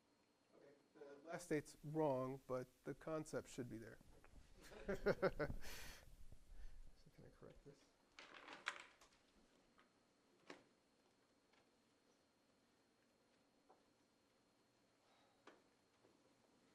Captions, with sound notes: the last date's wrong, but the concept should be there. [LAUGHTER] Just going to correct this.